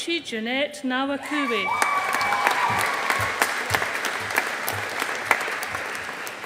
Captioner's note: audience applauding